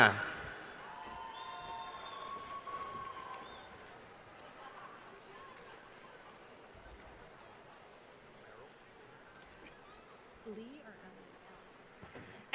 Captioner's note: cheering